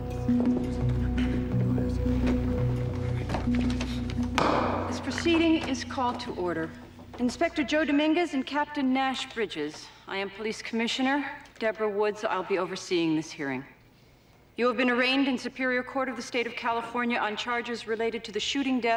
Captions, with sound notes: (gavel bangs) - This proceeding is called to order. Inspector Joe Dominguez and Captain Nash Bridges, I am Police Commissioner Debra Woods. I'll be overseeing this hearing. You have been arraigned in superior court of the state of California on charges related to the shooting deaths